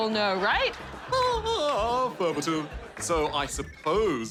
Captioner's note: chuckles